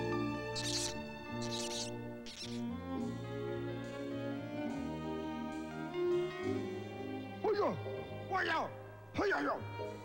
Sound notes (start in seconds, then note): 0.5 rat squealing; 6.9 man yelling angrily